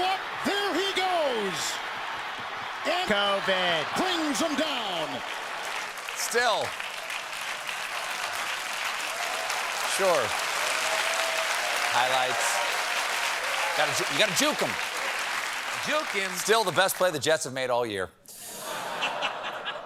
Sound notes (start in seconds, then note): 14.7 cheers and applause